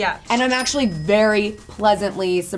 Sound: cash register rings

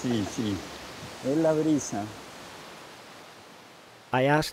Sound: speaking in foreign language

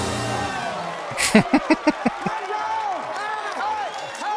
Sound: laughing

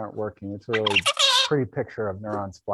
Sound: bird singing

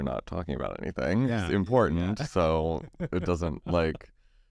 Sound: laughs

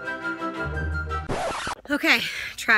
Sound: record scratching

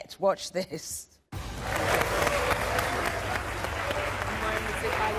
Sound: audience applause

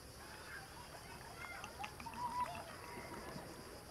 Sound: children talking

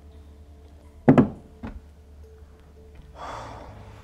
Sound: sighs

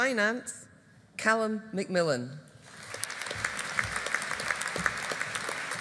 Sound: audience applauding

